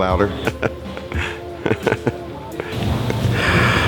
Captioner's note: laughter